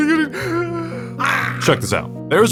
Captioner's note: deep breathe